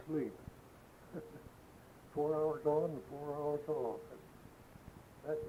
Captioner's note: chuckles